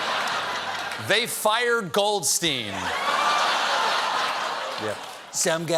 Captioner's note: laughter